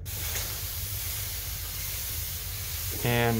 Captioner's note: sprayer spraying